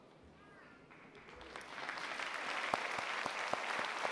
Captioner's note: applause